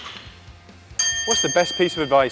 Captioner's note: bell dings